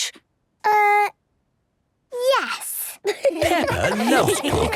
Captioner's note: laughter